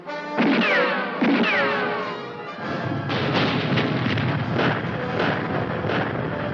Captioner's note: tense music; bombs exploding; guns firing